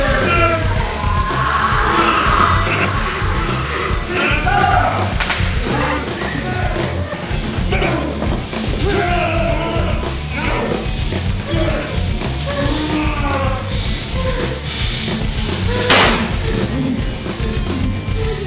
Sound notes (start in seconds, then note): 9.1 grunting; 15.9 gun firing